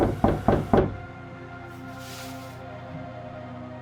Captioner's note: loud knock on door